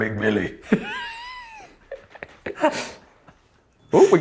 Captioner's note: laughing